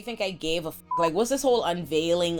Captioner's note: beep